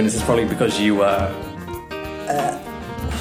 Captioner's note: blows air; gags